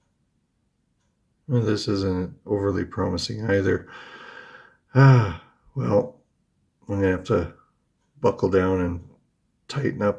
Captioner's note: sighs